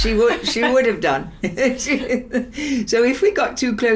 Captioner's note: laughs